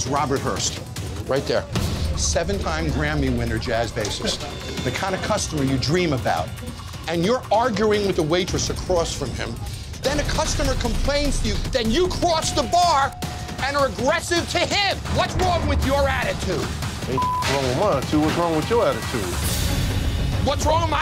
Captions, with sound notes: His name is Robert Hurst, right there. Seven time Grammy winner jazz bassist. The kind of customer you dream about. And you're arguing with a waitress across from him. Then a customer complains to you then you cross the bar and are aggressive to him! What's wrong with your attitude?! - Ain't (beep) wrong with mine. See what's wrong with your attitude?